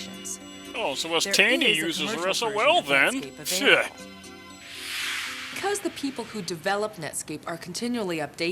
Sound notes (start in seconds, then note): 4.8 whoosh